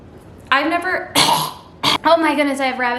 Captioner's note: coughs